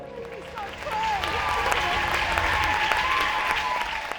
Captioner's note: crowd applauds